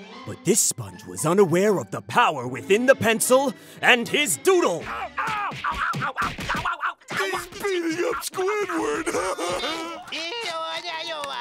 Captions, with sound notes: But this sponge was unaware of the power within the pencil and his doodle... [screaming] He's beating up Squidward! [laughing]